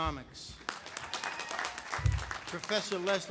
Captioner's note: audience applauding